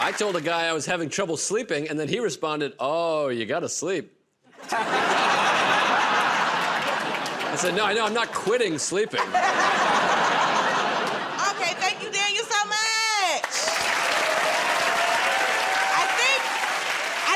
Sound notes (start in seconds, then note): 4.5 laughter; 13.2 cheers and applause